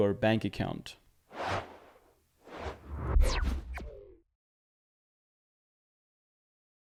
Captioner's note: air whooshes